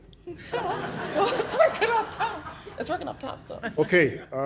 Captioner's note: laughter